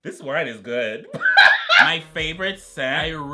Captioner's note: laughs